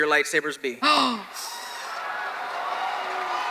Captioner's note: Hardwick gasps; audience claps